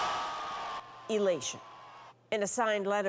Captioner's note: cheers and Applause